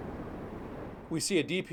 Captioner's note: wind howling